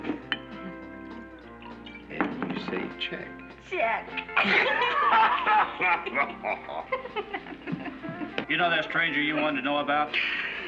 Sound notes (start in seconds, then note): 4.3 laughter